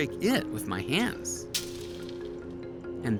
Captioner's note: glass shatters